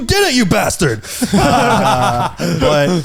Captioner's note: all laughing